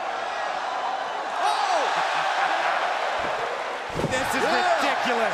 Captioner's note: crowd cheering